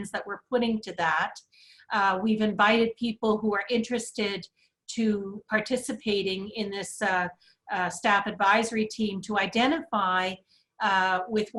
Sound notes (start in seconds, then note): none